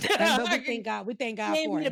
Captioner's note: laughs